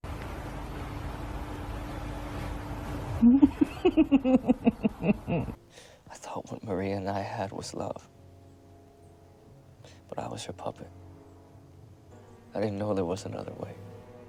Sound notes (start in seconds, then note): 3.2 laughs